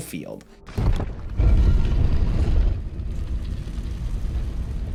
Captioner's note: statue rumbles